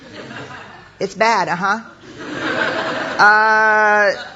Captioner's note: laugher